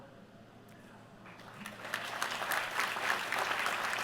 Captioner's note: applause